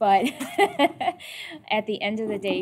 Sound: laughing

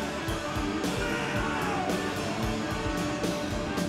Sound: upbeat rock music continues; screams; upbeat rock music

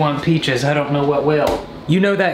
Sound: slaps

